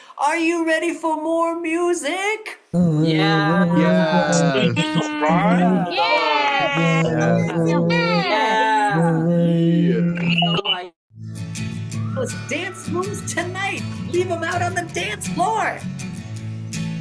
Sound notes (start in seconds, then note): 2.7 cheering